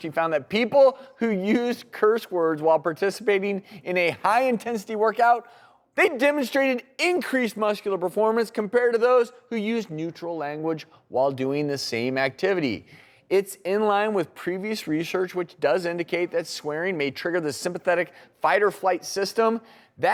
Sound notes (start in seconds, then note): none